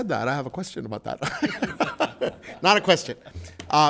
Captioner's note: laughs